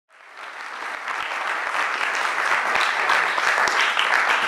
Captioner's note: cheering